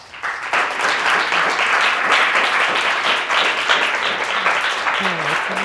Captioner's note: audience applauding